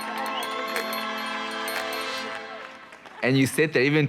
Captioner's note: spectator whistling